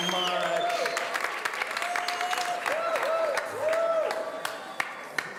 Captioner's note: audience cheering